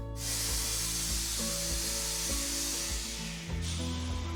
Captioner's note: press hissing